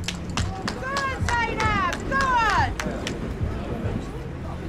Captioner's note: applauds